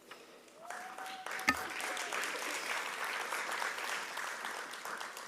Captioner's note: applause